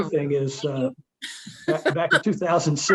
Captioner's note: laughing